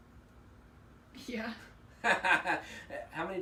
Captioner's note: laughing